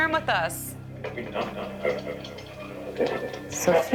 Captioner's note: static and muffled voices coming from radio